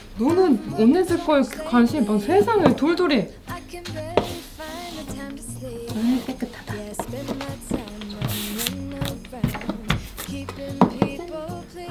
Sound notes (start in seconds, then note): 5.8 SFX: More fur removal